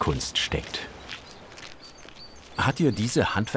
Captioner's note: birdsong